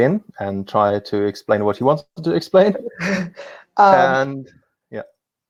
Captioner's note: chuckles